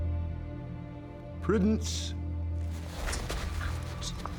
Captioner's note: scottish accent